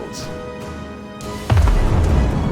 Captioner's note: boom